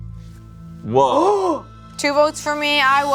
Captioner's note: gasps